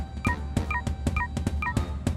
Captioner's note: beeping